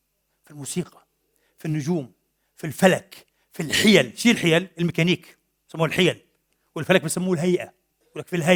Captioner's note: in Arabic